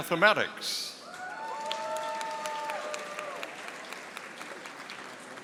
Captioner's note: audience applauding